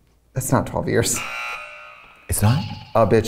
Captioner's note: alarm buzzing